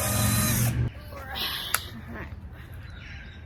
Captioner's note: more power drill; grunts with effort